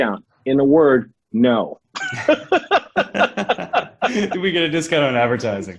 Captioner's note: laughs